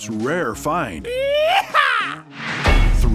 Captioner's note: exciting sound